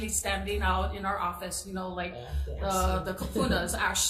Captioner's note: speaks in foreign language